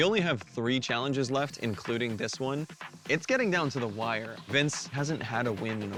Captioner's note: none